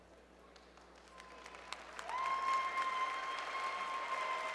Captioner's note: cheers and Applause